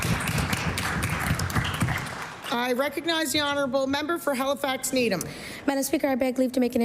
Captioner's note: applause